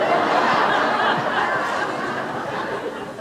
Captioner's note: laughter